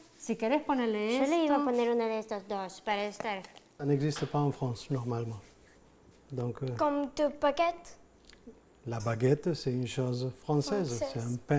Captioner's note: speaking Foreign Language